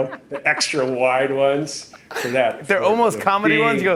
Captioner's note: laughs